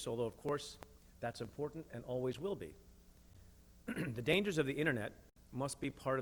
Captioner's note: clears throat